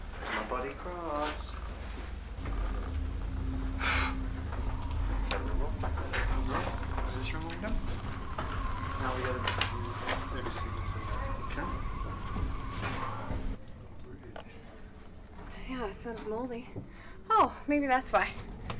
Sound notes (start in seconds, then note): 4.8 more chatter; 7.3 whistling wind